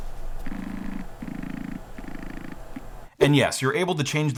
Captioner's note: auto-focus motors whirring